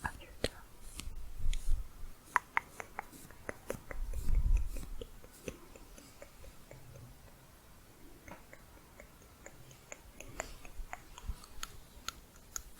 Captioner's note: tongue clicking, lower to higher pitch